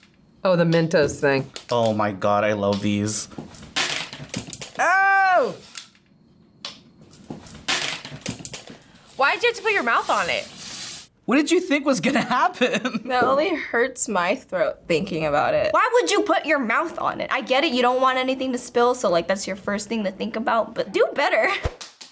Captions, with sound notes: - Oh, the Mentos thing. - Oh my god. I love these. - Oh! - Why'd you have to put your mouth on it? - What did you think was gonna happen? (chuckles) - That only hurts my throat thinking about it. - Why would you put your mouth on it? I get it. You don't want anything to spill, so that's your first thing to think about, but do better.